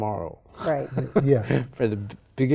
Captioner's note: laughs